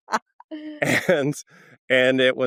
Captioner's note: laughs